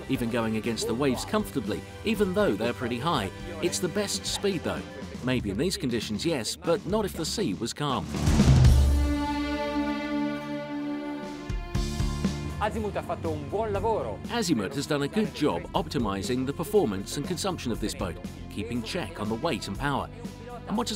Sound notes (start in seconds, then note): 9.3 triumphant music; 12.7 speaking in foreign language